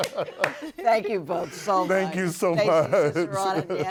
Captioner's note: laughter